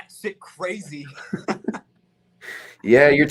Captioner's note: laughing